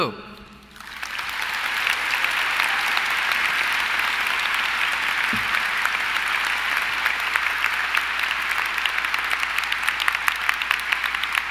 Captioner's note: applause